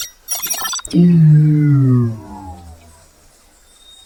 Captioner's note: shields whir